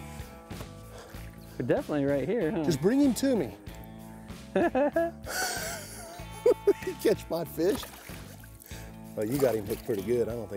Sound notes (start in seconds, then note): 4.5 both laugh